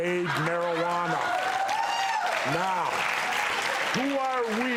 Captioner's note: audience cheering and clapping